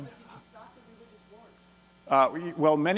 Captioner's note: voiceover